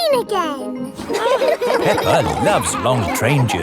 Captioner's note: laughing